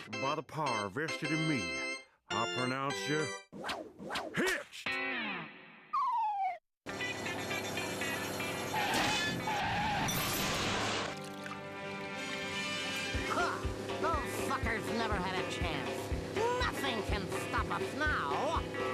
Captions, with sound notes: BY THE POWER VESTED IN ME, I PRONOUNCE YOU... [whooshing] HITCHED! HA! THOSE SUCKERS NEVER HAD A CHANCE. NOTHING CAN STOP US NOW.